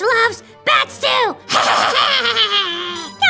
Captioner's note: laughs at his own joke